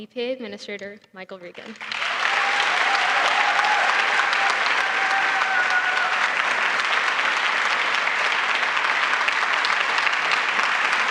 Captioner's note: applause